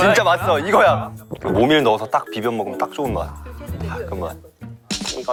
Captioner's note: salivating